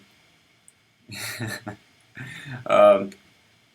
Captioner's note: laughs